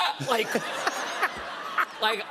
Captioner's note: laughter